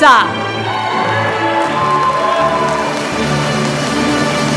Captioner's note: applause